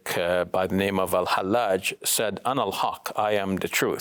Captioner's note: speaks in foreign language